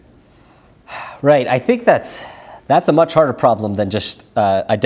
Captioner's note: sighs